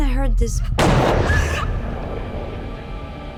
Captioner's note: banging sound